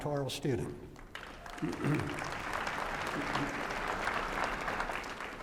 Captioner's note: applause